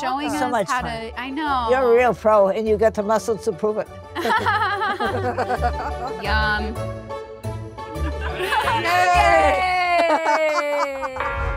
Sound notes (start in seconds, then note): 4.2 baker laughs; 4.2 laughs; 7.9 all laughing